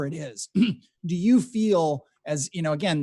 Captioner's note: throat clearing